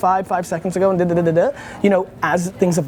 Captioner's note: mouth noises